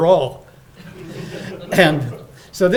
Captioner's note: audience laughing